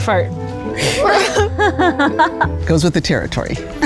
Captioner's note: laughs